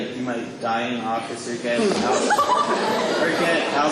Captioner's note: audience laughter